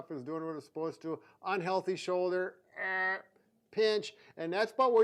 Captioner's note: vocalizes